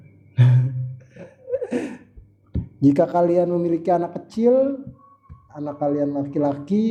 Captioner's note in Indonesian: tertawa